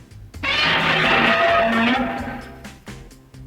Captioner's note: screeching roar